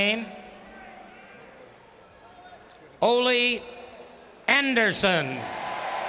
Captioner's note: applause